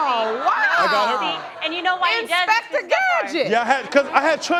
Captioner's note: exclaiming